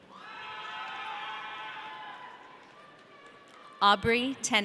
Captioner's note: audience cheering